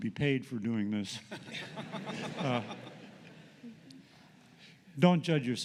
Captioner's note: laughter